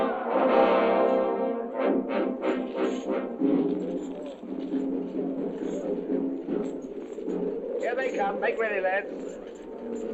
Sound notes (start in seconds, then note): 2.7 chains rattling; 5.4 indistinct chattering; 7.1 wind howling